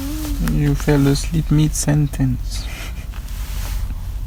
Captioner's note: chuckles